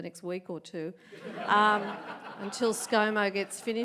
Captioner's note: audience laughs